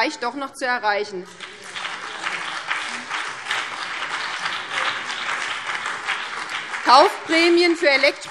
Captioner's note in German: Beifall BÜNDNIS 90/DIE GRÜNEN und DIE LINKE